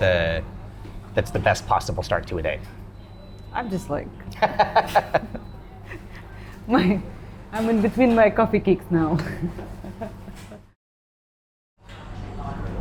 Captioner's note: laughing